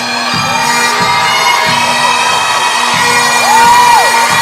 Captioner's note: crowd cheering